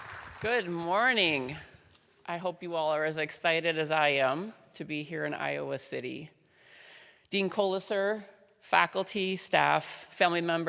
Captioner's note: applause